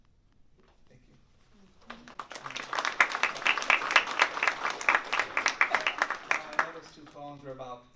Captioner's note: applause